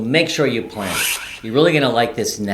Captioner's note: swish sound